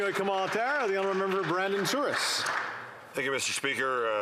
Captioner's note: applause